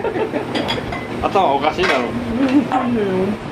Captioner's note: laughs